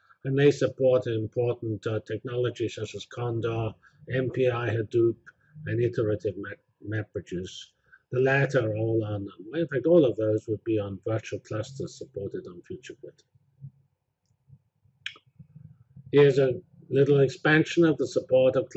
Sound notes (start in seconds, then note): 13.7 pause